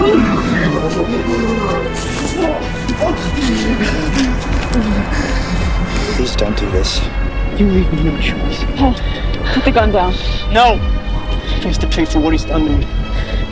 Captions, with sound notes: (Gun cocks) Please don't do this You leave me no choice Paul, put the gun down No! He has to pay for what he's done to me